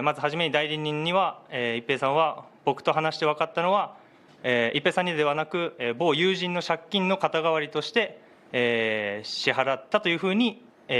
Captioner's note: speaking in global language